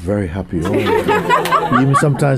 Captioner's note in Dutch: gelach